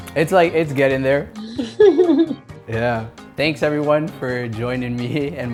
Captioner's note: laugh